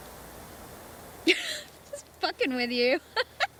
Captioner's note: laughs